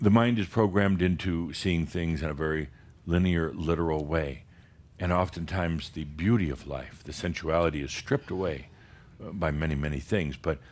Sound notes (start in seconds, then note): none